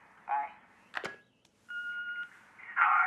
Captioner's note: machine beeping